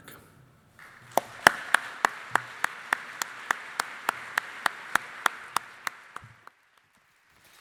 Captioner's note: applause